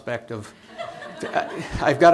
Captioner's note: laughter